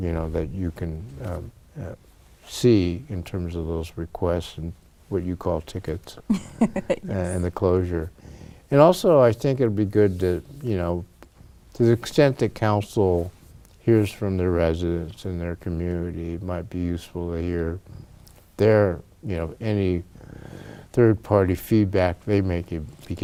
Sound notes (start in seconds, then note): 6.3 laughs